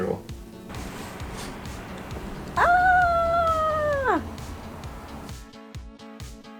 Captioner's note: cheers; upbeat music